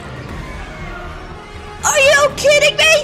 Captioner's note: fairies screaming